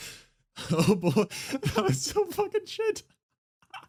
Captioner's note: laughing